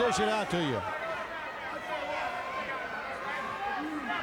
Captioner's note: fans shouting